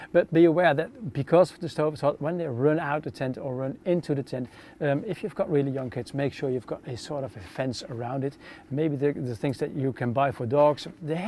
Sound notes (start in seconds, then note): none